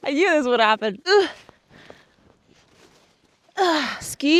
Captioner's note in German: grunzt